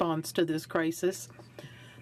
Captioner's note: speaking French